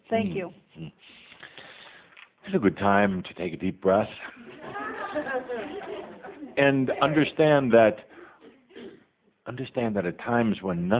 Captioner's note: some laughter